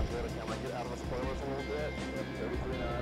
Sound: radio chatter

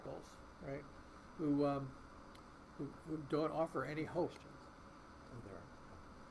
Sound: voice muffled

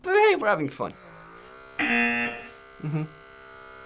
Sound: DermaSuction motor buzzing

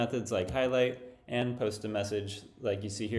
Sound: none

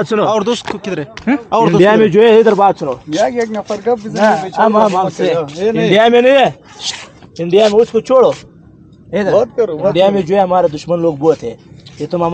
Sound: speaking Pashtu

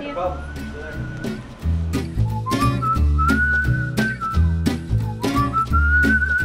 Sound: upbeat strumming; whistling

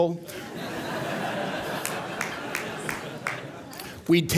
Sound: laughter

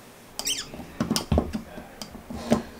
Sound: squeak

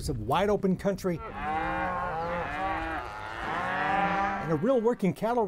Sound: cattle mooing

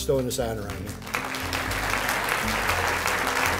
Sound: applause

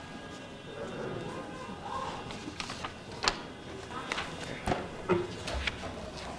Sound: cars honking; paper flipping

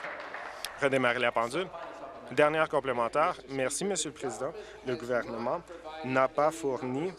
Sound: applause

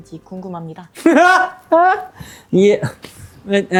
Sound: laughter

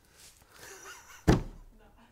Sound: laughs; hands thud

